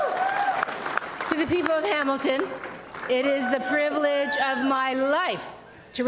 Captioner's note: applause and cheering